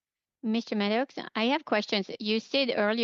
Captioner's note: speaking in French